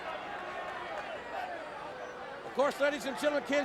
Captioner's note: crowd chattering